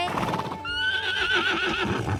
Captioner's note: neighs